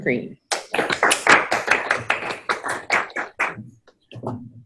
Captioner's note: crowd applauses